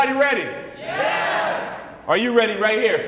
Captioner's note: crowd cheers